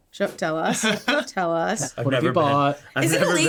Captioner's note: laughing